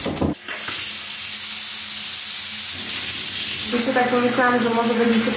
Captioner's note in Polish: szum wody